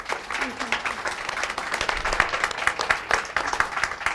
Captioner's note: audience applauds